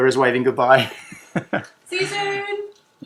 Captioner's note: laughs